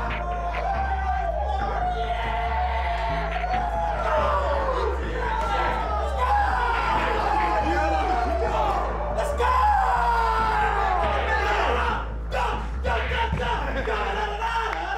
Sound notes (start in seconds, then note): 1.0 team cheering; 10.3 cheering continues